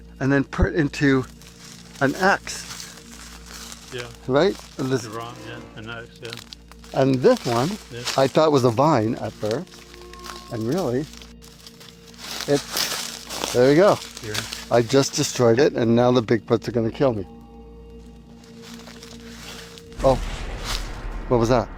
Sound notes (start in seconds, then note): 12.9 branch crackling; 17.0 crackling sound; 17.3 soft music; 20.8 dramatic music